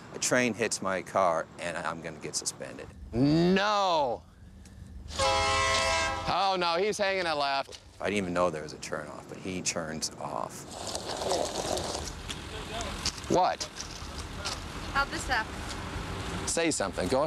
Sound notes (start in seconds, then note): 5.1 train whistle